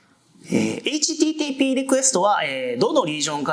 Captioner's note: speaking japanese